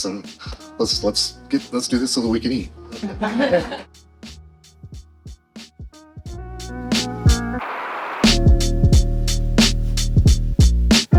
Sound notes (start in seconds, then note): 2.9 audience laughing; 4.0 upbeat music